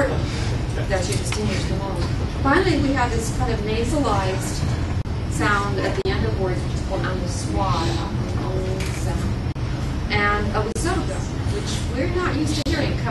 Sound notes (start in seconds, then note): 8.2 pronounces anusvara